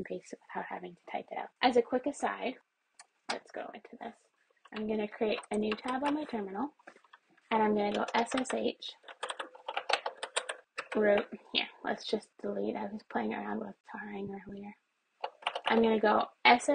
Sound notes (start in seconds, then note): 4.7 mouse moves; 9.3 keyboard types; 11.5 goes quieter while talking; 15.2 keyboard presses